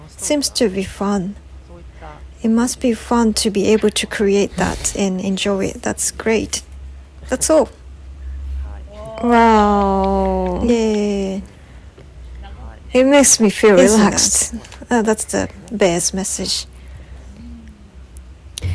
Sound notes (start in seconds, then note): 8.5 applause